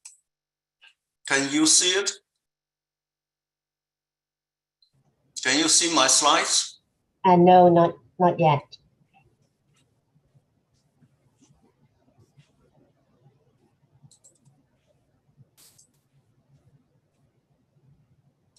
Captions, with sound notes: Can you see it? Can you see my slides? - No, not yet. (mouse button clicking)